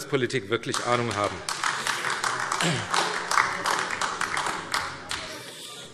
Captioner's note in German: Beifall AfD